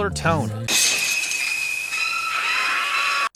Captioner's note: glass shattering